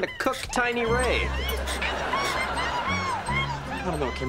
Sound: screaming

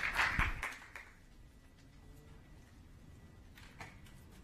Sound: applause

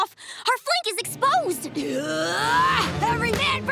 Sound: grunting

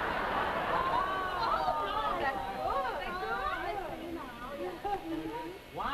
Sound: audience laughs; women laugh, ooh and ah

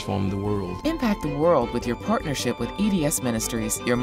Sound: voiceover

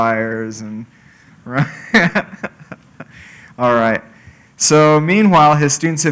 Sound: laugh

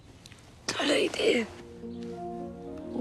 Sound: hoarse voice

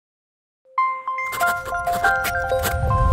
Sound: scribbling

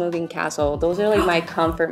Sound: gasps

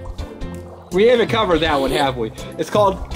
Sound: chuckles

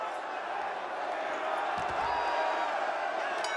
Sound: cheering

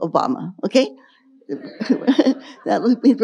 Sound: audience laughing

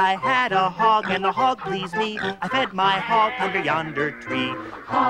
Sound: squeals

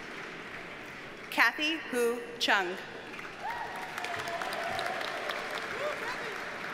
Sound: audience cheers and applauds

